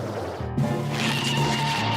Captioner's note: screeching